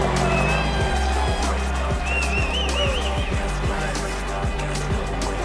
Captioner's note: engine revving; whistling